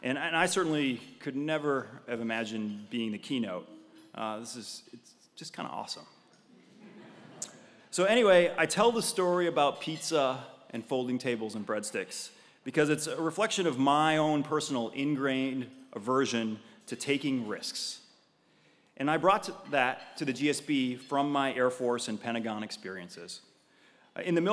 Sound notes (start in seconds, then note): 6.2 laugh